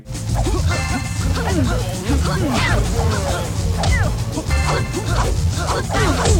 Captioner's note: upbeat techno music; characters grunting